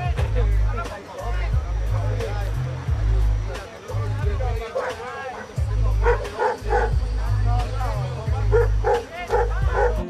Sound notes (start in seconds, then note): 6.0 dog barking